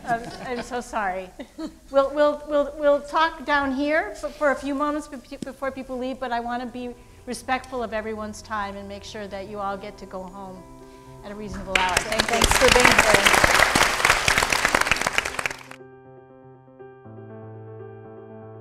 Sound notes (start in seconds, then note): 13.4 audience applauding; 16.1 calm music